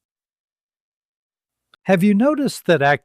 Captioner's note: pause